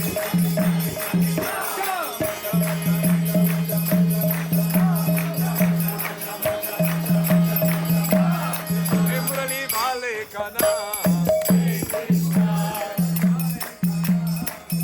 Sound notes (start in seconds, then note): 0.1 upbeat music; 2.5 crowd chanting